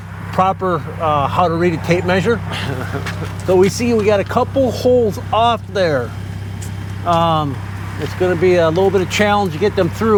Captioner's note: laughter